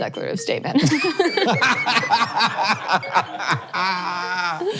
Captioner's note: all laughing